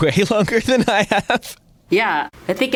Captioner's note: laughs